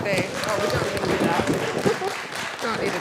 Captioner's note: class applauding; chuckles